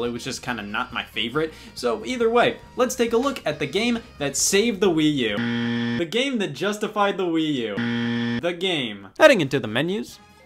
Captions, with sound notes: It was just kind of not my favorite. So either way, let's take a look at the game that saved the Wii U. (buzzer) The game that justified the Wii U. (buzzer) The game. Heading into the menus.